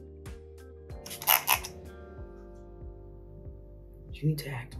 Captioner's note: spray nozzle squeaks